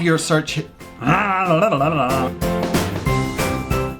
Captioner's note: growls